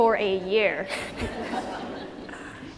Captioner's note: laughter